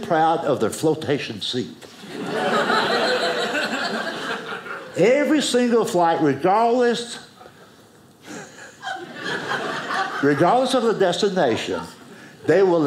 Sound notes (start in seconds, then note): 2.0 audience laughing; 8.3 audience laughing